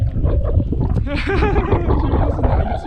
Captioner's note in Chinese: 苦笑